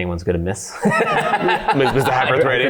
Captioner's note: laughs